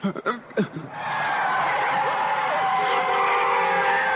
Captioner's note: tires screeching